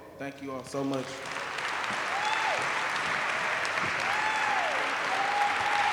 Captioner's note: applause